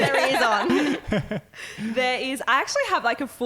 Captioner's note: laughing